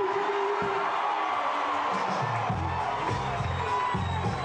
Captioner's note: crowd cheering